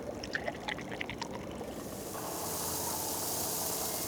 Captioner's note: fizzing